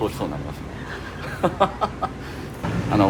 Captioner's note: laugh